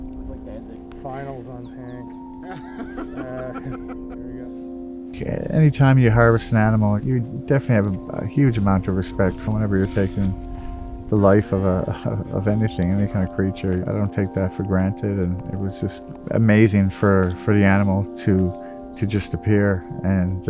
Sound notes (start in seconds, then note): 2.4 chuckles; 2.4 laughing